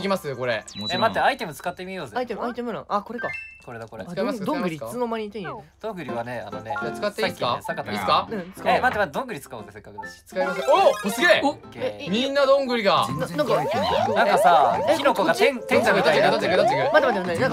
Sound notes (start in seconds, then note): 13.0 quietly